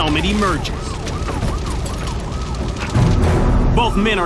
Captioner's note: siren wailing